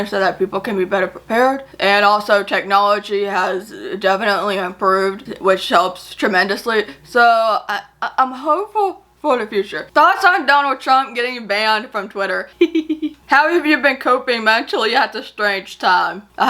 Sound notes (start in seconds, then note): 12.5 giggles